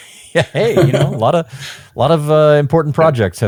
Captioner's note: both laughing